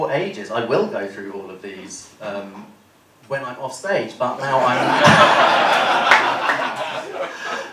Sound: laughter

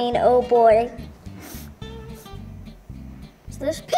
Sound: sniffs

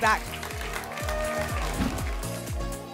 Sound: applause and cheering

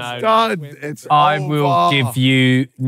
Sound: cheering

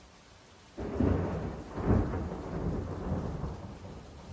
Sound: thunderclap

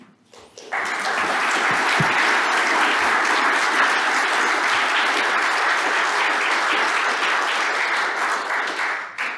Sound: applause

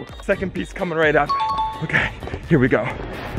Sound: chimes

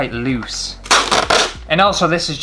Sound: tape Peeling

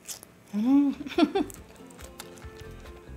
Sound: laughs

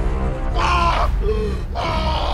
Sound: gasp

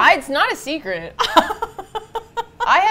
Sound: laughs

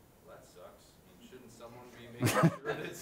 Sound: voiceover

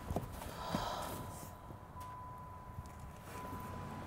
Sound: woman whispering

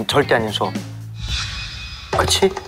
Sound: swoosh

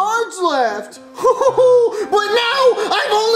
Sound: laughs

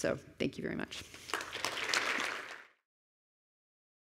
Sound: applause

